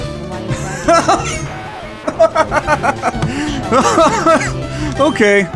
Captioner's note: laughing